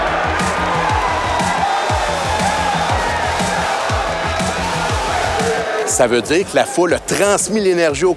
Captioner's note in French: cris et musique